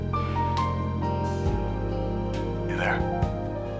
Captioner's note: sighing